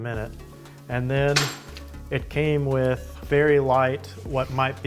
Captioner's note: belt clanging